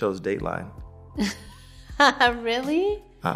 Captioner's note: laughing